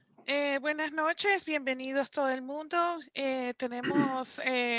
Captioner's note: speaking Spanish